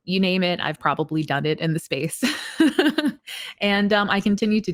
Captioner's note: laughs